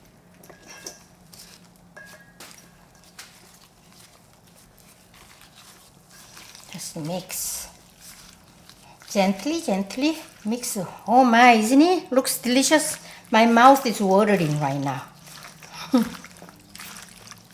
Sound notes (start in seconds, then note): 15.8 laughs